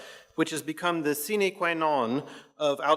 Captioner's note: speaks in foreign language